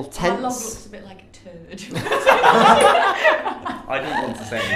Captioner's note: everyone laughing